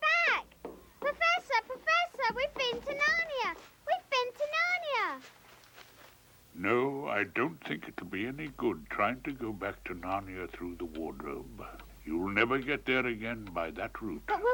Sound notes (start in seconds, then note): none